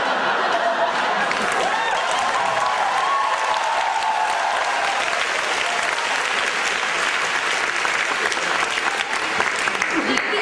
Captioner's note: audience cheers